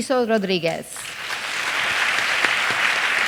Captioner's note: applause